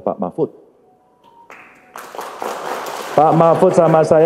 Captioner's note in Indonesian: tepuk tangan